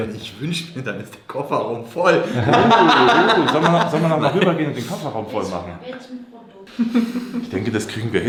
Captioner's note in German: gelächter